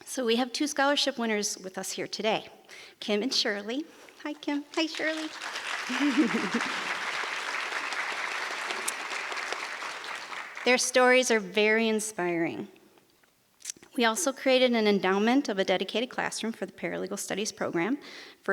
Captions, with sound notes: So we have two scholarship winners with us here today, Kim and Shirley. Hi, Kim. Hi, Shirley. (giggles) (audience applause) Their stories are very inspiring. We also created an endowment of a dedicated classroom for the paralegal studies program,